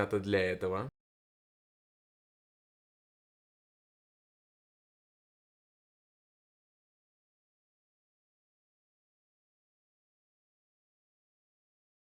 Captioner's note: silence